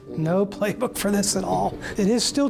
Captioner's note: chuckles